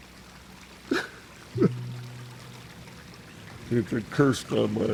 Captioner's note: sobs